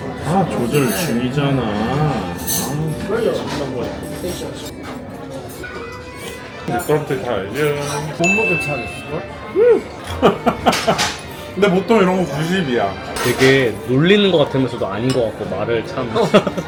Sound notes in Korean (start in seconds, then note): 9.4 흐윽